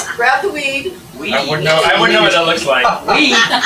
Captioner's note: laugh